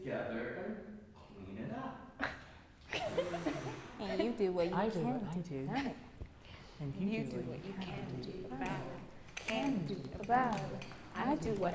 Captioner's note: laughter